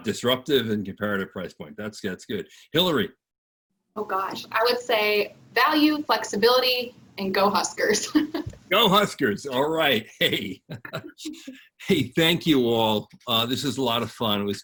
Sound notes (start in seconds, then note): 7.8 laughs; 10.9 all laughing